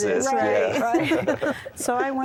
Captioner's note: laughter